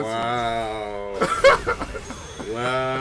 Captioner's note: laughs